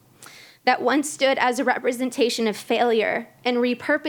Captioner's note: voice wavering